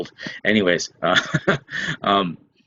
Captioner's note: chuckles